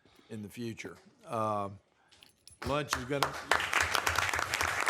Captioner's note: applause